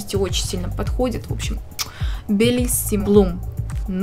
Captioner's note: speaks Italian